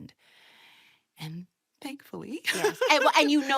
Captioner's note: laughs